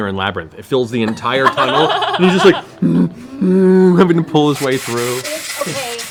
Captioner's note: bear noises